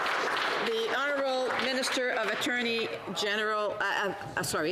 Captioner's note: some Applause